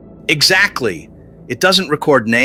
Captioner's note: excited